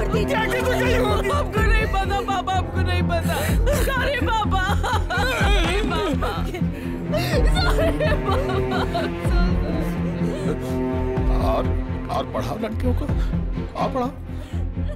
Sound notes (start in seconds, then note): 6.0 Crying